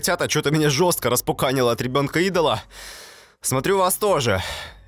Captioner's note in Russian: вздох